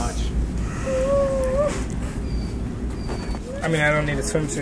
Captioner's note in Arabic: صرخات المزيفة